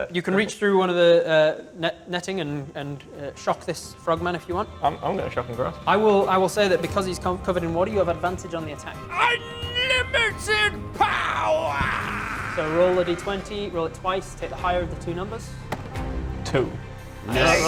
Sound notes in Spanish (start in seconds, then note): none